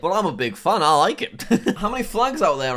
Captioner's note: laughs